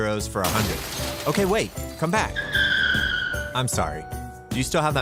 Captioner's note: squealing